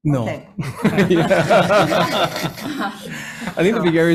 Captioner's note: all laughing